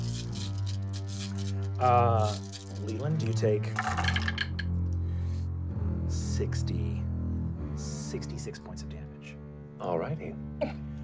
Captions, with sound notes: (dice rolling) - Leiland, you take (dice rolling) 66 points of damage. - All righty.